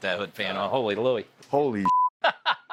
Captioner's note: beep; laughing